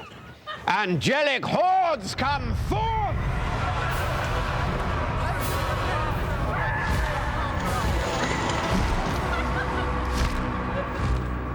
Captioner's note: shouts; rumbling